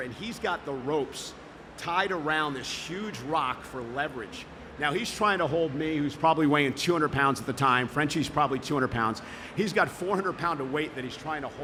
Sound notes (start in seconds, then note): none